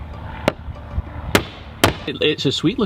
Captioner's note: loud clacking